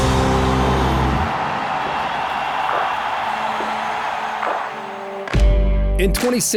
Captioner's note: crowd cheers